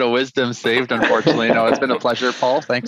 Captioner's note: all laughs